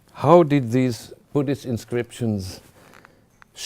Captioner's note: none